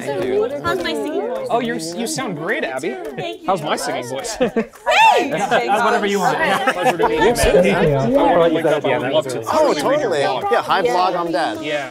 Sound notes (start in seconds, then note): 6.5 participants laughing; 8.2 participants chatting festively